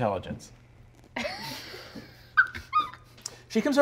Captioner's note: laughing